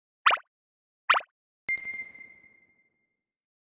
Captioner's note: beep sound